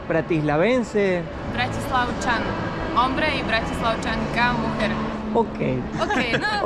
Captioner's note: Speaks in Slovak